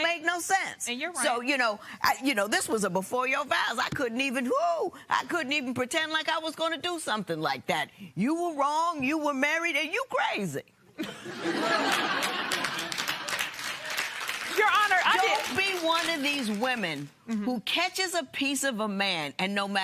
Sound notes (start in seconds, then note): 11.0 laughter